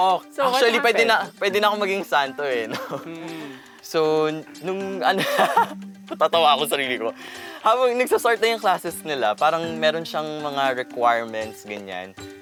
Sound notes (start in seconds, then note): 4.6 laughs